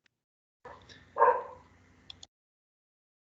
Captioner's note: dog barks